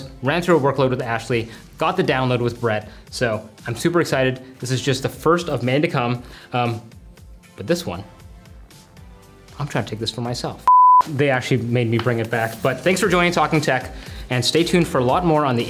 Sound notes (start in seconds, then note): 10.6 screen pattern beep